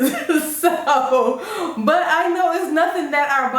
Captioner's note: laugh